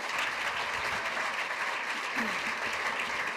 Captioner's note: applause